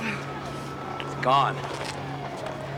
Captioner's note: siren wailing